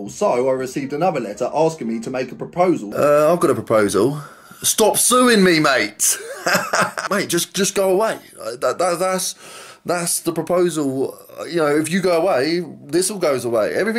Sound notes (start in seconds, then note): 6.0 laughs